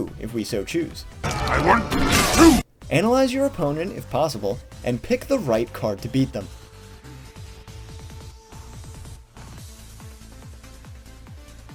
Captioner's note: Megatron noises